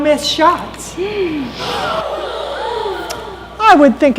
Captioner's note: gasping